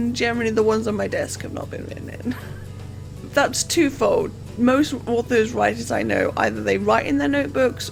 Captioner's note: laughs